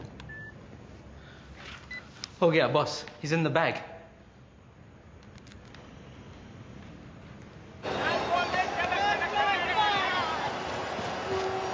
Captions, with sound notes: (beeps) - Oh, yeah, boss. He's in the bag! (shouting)